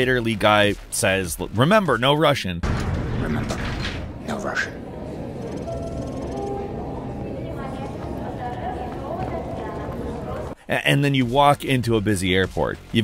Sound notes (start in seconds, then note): 4.1 people chattering; 5.5 PA system chiming; 7.3 PA system speaking in foreign language